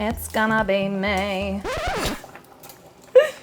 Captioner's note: record scratches